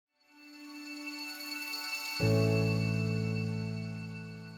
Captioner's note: bright chime